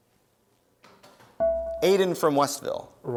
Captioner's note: dinging